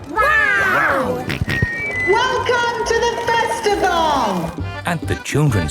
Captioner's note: on microphone; jolly folk music